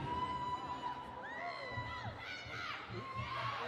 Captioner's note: audience members cheering